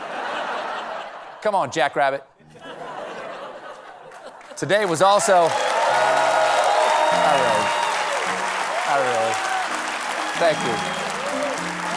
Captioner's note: applause